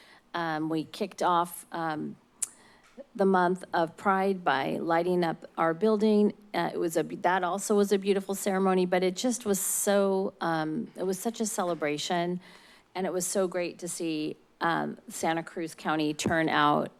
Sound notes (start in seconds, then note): none